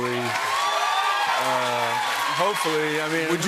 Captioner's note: cheers and applause